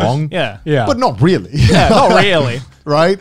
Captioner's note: laughs